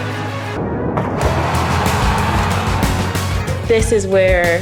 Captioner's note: water splashes; bus engine revs